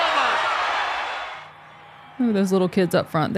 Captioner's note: audience cheering